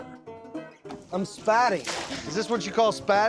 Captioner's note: splash